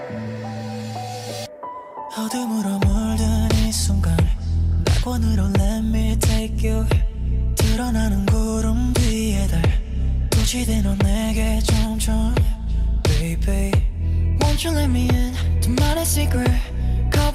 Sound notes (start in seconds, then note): 0.0 upbeat music; 12.3 speaking in foreign language; 14.4 upbeat music; 15.4 speaking in foreign language